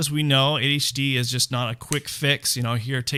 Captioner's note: snaps